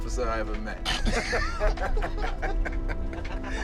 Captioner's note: laughter